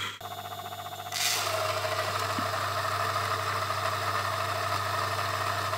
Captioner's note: grinder grinding